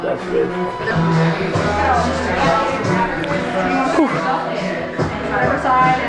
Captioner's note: group murmuring in the background